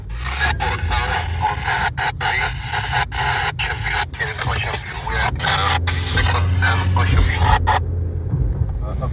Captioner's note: radio sounds